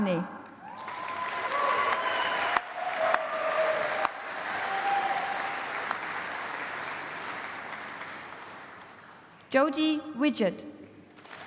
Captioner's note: applause; aplause